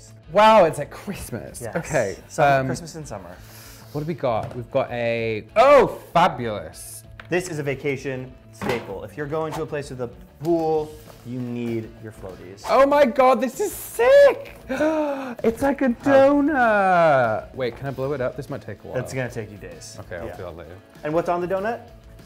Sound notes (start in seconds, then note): 14.6 gasps